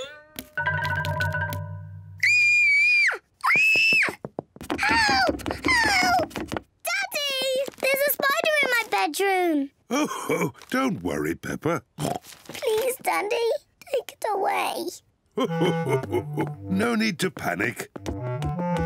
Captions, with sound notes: (SQUEALS) Help! Help! Daddy! There's a spider in my bedroom. (CHUCKLES) Oh, don't worry, Peppa. (OINKS) Please, Daddy, take it away. (CHUCKLES) No need to panic.